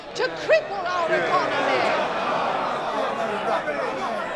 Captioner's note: soundbite of shouting